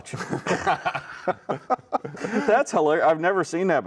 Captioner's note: both laughing